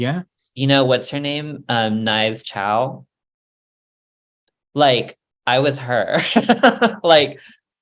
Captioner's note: laughs